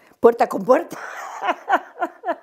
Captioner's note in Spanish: risas